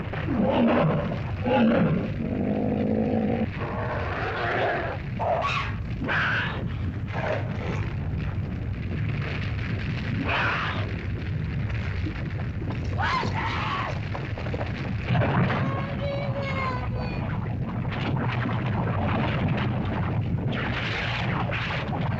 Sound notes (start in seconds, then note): 0.0 dinosaurs growl; 0.1 fire crackles; 12.8 screams; 15.0 Wandi cries; 15.0 rumbling sound; 17.2 lava bubbles & flows